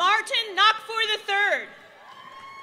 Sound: applause

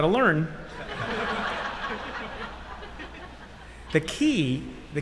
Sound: laughter

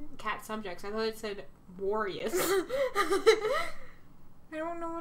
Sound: Blueheart laughs

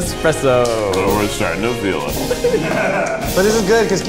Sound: all giggling

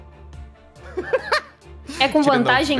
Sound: laughs

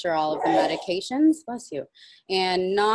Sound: person sneezes

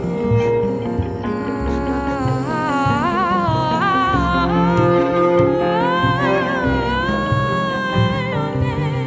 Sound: audible breath; with prolonged vocalization "caalllll"

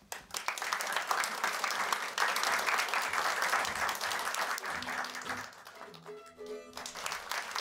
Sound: applause

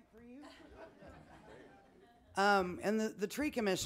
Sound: people laughing

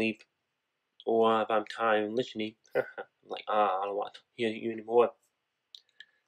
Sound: haha

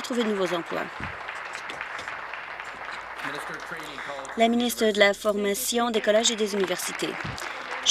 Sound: applause

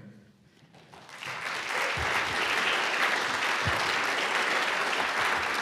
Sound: audience applauds

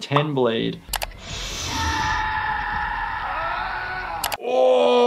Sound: tool whirring

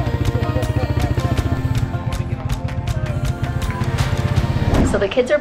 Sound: lighthearted guitar music; engine roars

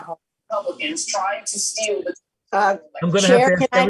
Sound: overlapping chatter

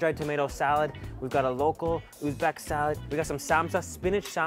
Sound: foreign language

